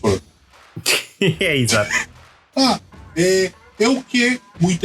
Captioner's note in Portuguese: riso